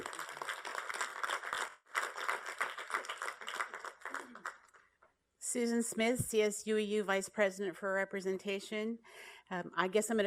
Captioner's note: applause